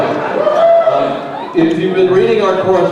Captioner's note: crowd cheers